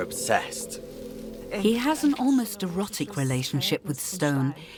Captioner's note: female voice in German